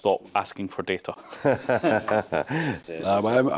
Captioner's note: group laughing